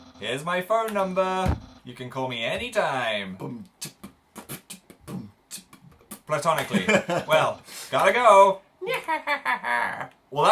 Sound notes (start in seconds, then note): 3.4 beatboxes victoriously; 6.6 laughs